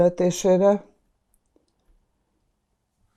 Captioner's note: pauses 6 seconds